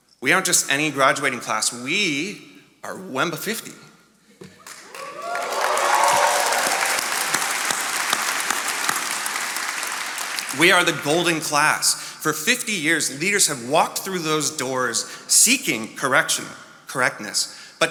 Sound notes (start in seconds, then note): 4.6 attendees cheering and applauding